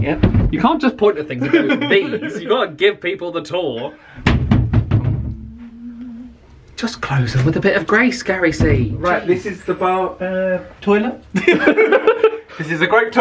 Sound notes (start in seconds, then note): 4.2 cupboard thudding; 11.3 both laugh